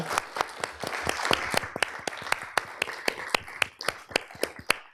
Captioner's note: applause